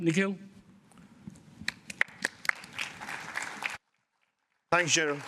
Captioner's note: applause